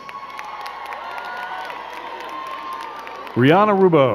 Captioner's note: crowd cheering and clapping